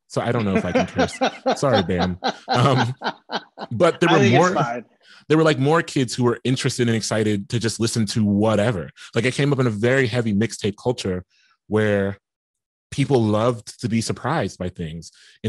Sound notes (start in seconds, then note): 3.0 laughing